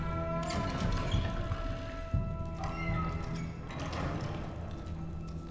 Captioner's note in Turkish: Kapı Sesi